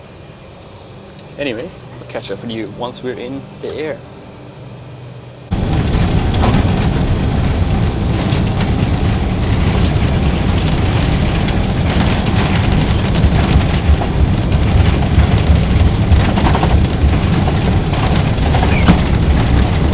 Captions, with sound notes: Anyway I'll catch up with you. Once we were in the air. (plane engine roaring)